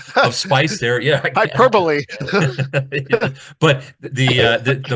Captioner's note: laughing